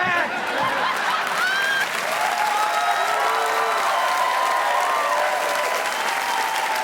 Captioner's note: crowd cheering; audience applauding